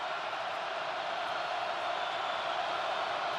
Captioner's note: crowd cheering